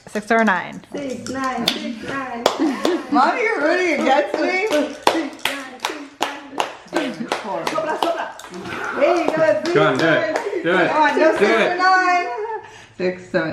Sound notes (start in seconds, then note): 6.4 clapping